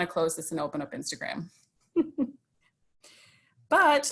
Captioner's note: snickers